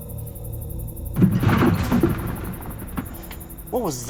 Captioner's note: rummaging